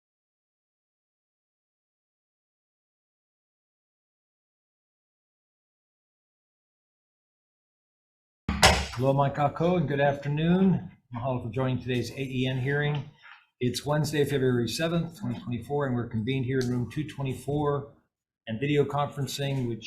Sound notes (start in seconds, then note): 8.5 gavel clinking; 9.9 chair speaking Hawaiian